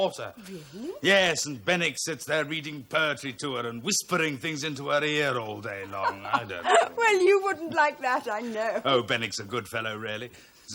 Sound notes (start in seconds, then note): 5.7 laughs